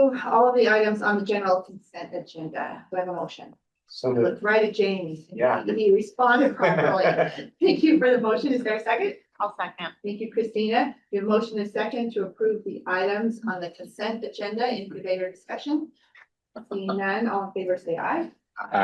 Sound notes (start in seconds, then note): 6.4 chuckles